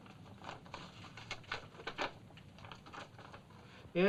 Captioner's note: paper rustling